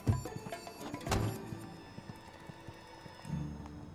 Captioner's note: door closing